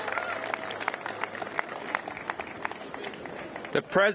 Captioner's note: applause